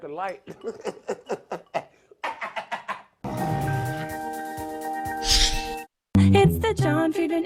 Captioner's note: laughs